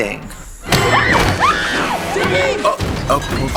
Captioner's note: Ziggy screaming; Trixie and Katya groaning